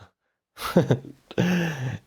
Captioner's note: laughter